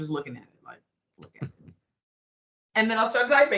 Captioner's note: chuckling